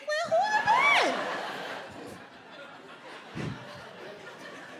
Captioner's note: audience laughs